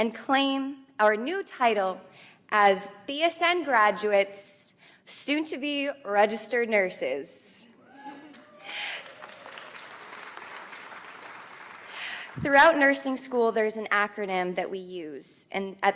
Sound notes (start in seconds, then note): 8.3 audience applauds